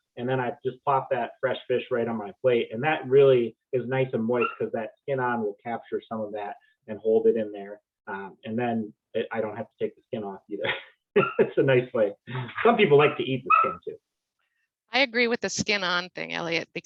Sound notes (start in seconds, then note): 12.2 chuckles